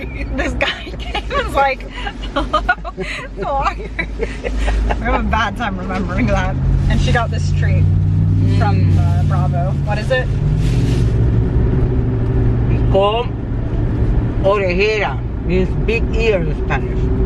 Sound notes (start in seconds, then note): 3.2 both laugh